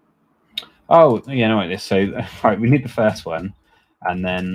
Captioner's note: chuckles